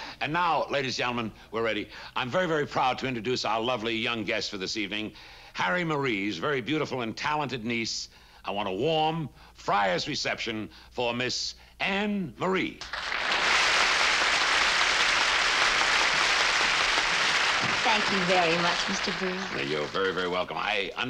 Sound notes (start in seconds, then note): 12.8 applause